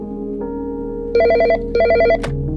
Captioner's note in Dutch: telefoon gaat over